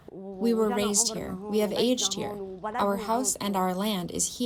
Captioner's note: through translator